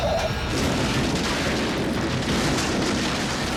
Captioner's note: tires screeching; metal crashing; suspenseful music continues